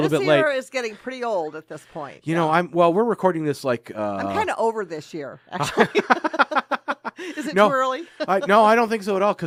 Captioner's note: both laugh